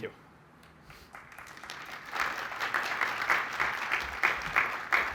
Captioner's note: cheering, applause